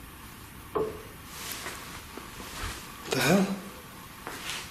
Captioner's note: soft clanging